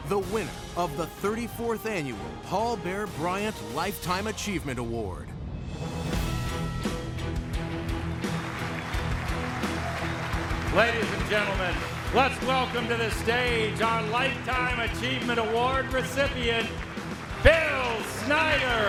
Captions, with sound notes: the winner of the 34th Annual Paul Bear Bryant Lifetime Achievement Award. (dramatic music) (audience applauds) - Ladies and gentlemen, let's welcome to the stage our Lifetime Achievement Award recipient, Bill Snyder.